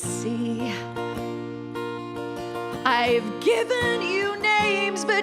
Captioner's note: none